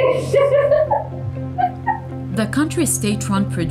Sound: laughs

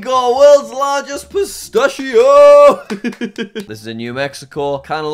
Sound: laughs

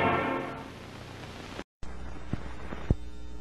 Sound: 50s TV static

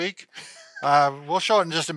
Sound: laughs

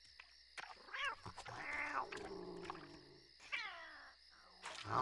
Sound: cats meowing

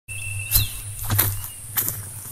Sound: footsteps

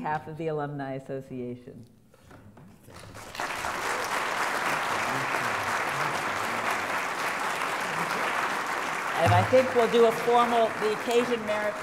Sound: applause

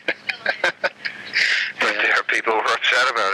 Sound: laughing

